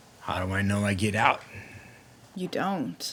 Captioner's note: sighs